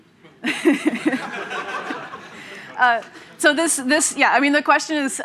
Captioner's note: laughter